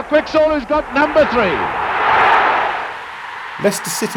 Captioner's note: crowd roaring